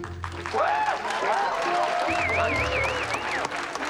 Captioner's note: cheers and applause